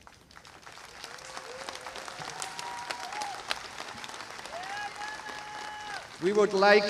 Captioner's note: applause